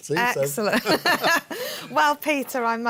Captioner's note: laughter